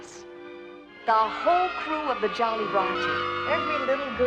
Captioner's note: children Cheering